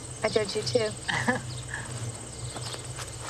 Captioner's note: chuckle